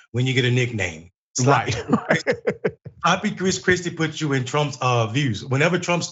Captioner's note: laugh